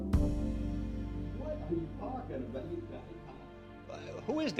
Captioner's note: people indistinctly chatting